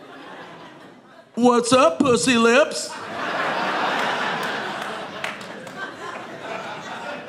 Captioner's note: audience laughing